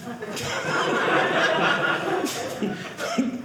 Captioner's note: audience laughing